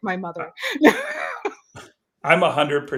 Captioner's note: laughs